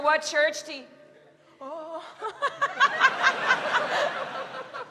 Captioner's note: laughs